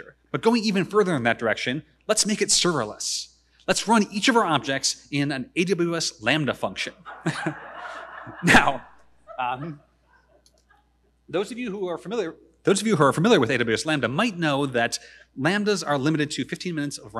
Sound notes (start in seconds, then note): 6.9 chuckles; 7.0 audience laughing